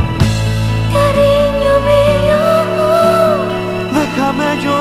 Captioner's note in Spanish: Voz de mujer